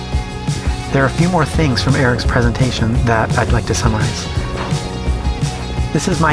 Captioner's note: voice-over